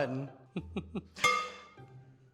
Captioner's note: chuckles